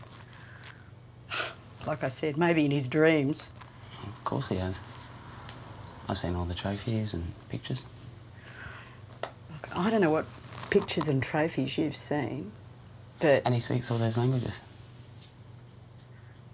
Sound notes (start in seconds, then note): none